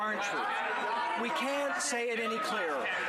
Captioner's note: some Laughter